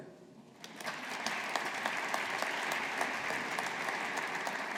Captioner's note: audience applauding